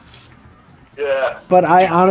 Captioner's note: chuckling